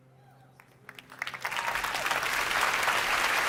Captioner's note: applause